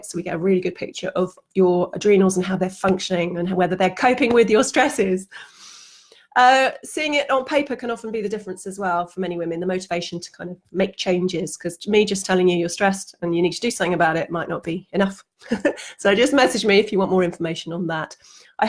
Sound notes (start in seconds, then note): 15.4 she laughs